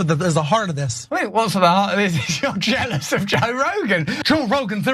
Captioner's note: laugh